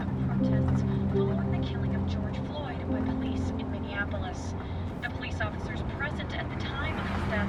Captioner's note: none